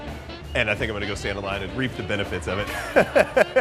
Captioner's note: laughing